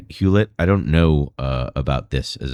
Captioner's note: uh